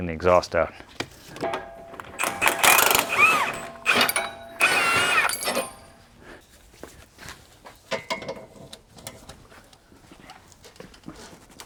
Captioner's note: drilling